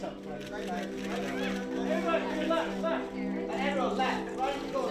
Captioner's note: camera clicks